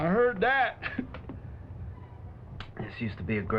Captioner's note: chuckles